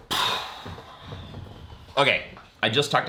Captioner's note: reviewer sighing